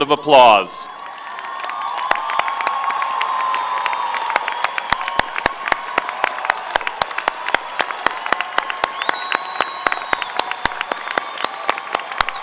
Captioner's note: applause